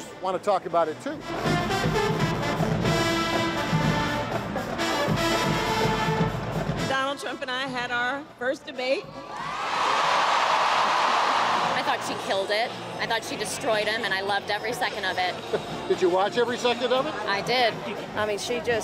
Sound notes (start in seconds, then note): 1.1 lively trumpet music; 9.2 audience cheering